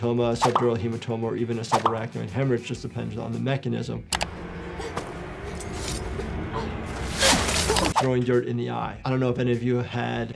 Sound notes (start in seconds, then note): 7.1 sand spraying